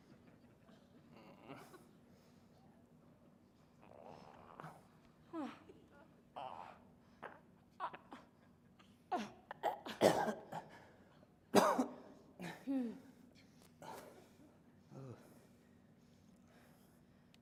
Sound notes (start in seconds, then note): 0.7 audience laughing; 11.5 both coughing